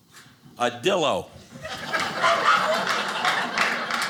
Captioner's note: audience laughing